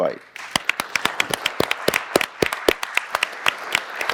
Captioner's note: audience applauding